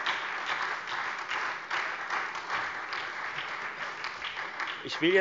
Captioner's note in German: Beifall Freie Demokraten, SPD und DIE LINKE